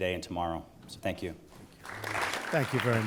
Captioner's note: applause